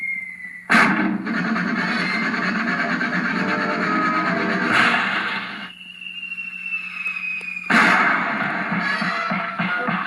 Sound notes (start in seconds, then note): 0.8 thud; 1.3 sawing; 7.7 thud